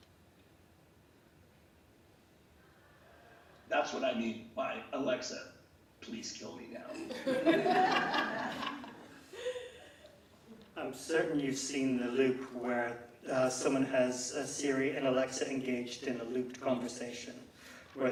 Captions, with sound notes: That's what I mean by Alexa, Please Kill Me Now. (laughter) - I'm certain you've seen the loop where someone has a Siri and Alexa engaged in a looped conversation,